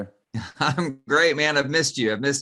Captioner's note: chuckles